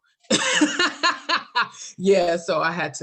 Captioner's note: laughter